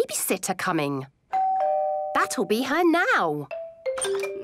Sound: doorbell rings

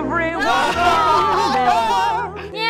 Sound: screaming over the music

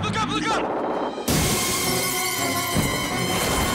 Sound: shattering

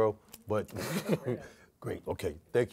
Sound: laughs

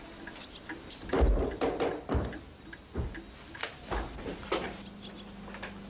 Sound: books clattering upstairs

